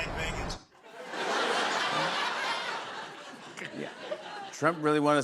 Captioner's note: laughter